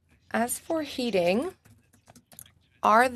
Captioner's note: speaking French